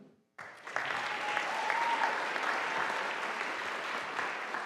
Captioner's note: audience applauding